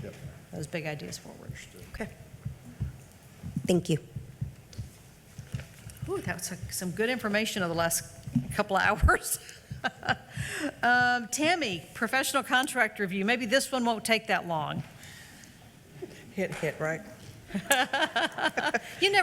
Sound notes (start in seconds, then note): 9.8 laughs; 17.5 laughs